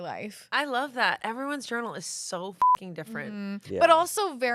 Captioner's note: beep